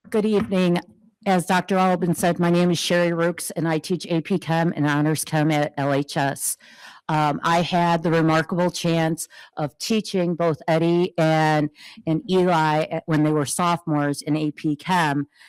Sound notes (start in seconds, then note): none